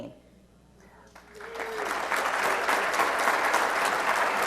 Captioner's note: audience applauds